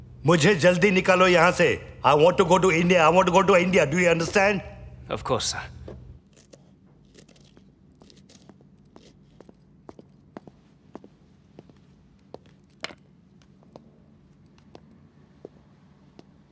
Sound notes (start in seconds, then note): none